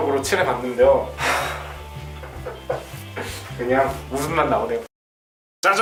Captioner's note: deep sigh~~